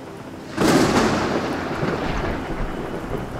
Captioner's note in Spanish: truenos